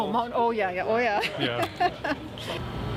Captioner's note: Gülme